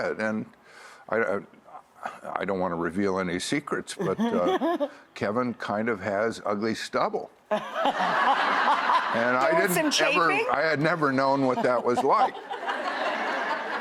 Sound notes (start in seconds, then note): 7.6 audience laughs